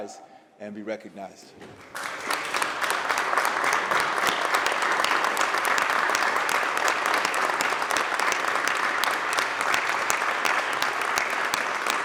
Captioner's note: applause